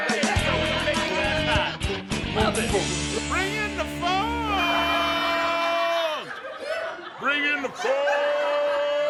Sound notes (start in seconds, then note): 0.0 uplifting rock; 4.7 audience laughs